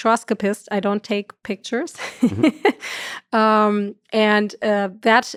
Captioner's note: laughs